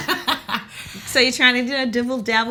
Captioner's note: Kellita laughs